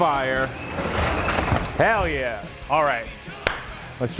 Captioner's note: door squeaking